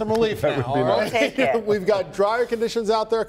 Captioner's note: laughter